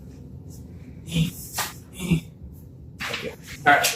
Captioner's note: grunt noises